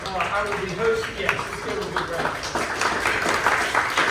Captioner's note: clapping